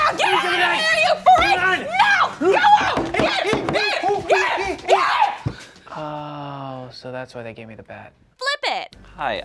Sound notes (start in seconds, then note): 1.8 scream; 2.8 bat knocking; 4.2 screaming